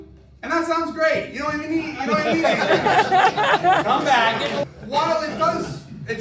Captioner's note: laughter